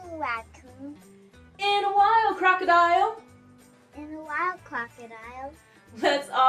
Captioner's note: little girl's voice; little girl's voice